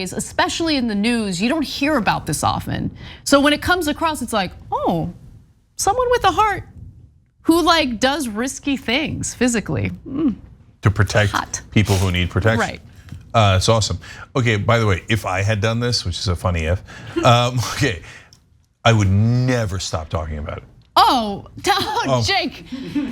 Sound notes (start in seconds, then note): 17.8 laugh